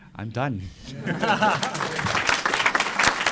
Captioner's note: applause